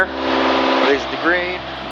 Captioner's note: engine whirring